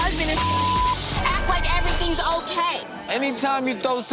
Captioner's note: beep